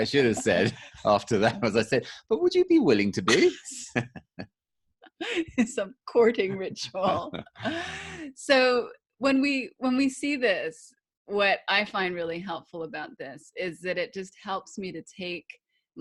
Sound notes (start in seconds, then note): 6.8 laughing